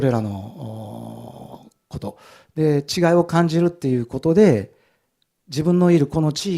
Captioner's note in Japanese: うめき声